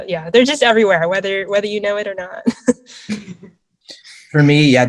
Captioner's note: chuckles